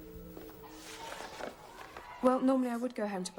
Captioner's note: papers rustling; students chattering